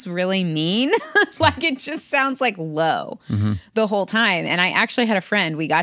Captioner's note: laughs